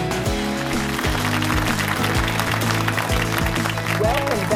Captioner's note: applause